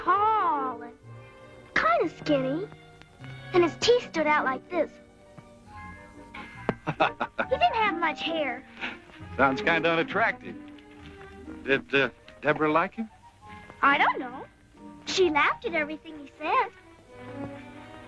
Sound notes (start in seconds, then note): 6.7 laughs